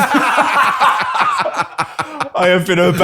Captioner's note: laughter